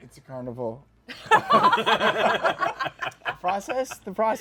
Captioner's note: laughter